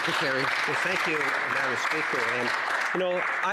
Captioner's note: applause